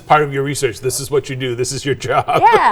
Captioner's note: laughs